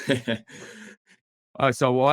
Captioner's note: chuckling